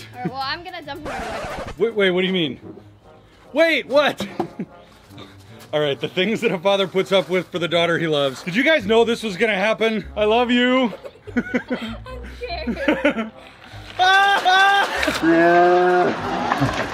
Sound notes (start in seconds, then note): 10.8 laughing